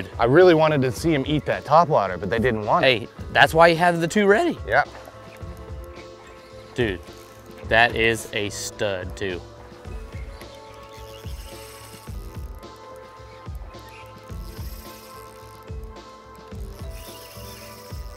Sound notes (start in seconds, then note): 9.7 reel spinning